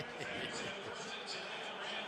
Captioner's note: chuckles